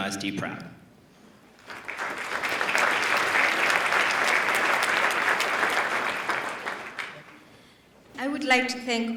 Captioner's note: applause